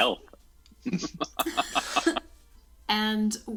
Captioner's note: chuckles